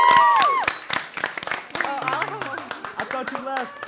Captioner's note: cheering; laughter and chatter